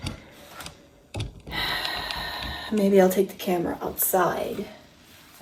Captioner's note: exhaling loudly